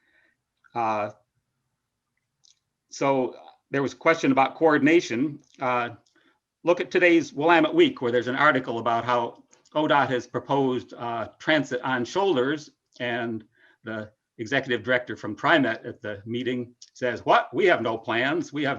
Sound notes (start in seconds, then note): 14.9 speaks faintly